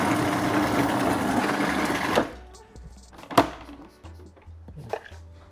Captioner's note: food processor runs